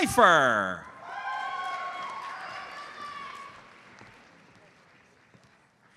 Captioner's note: audience cheers and applauds